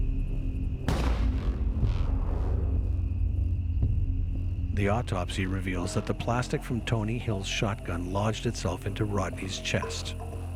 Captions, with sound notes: (gun fires) The autopsy reveals that the plastic from Tony Hill's shotgun lodged itself into Rodney's chest.